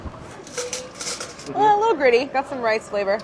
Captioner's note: silverware clattering